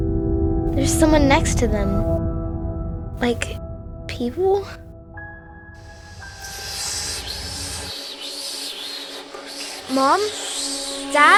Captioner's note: whispering sounds